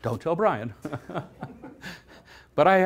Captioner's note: laughter